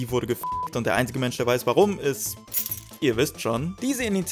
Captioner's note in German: Schlüssel klimpert wieder